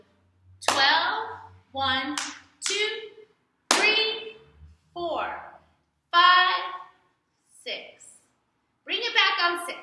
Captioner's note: clap